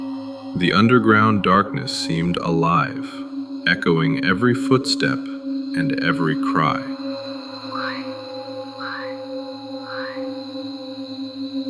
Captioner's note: echoing whispering